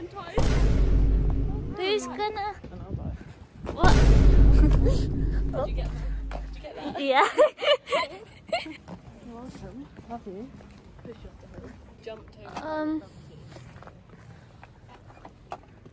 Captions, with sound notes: That's happened twice! Then I'll die What?! Did you get that on video? Yeah [LAUGHER] Awesome, love you I'll push you off the hill